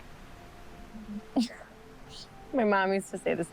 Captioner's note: Isla giggles